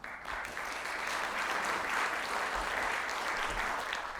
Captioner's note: audience applauds